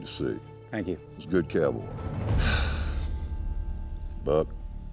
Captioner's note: sighs